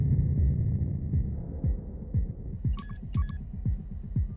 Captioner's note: clicks, beeps